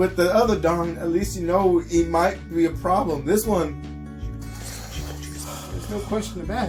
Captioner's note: heavy snorting and breathing